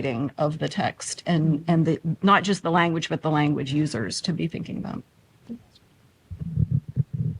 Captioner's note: microphone slides